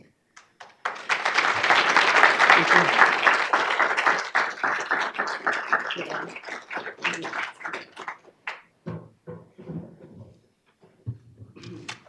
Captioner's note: applause